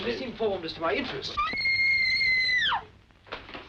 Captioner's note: screaming